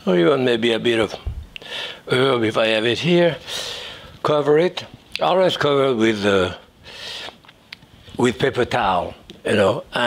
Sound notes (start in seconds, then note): none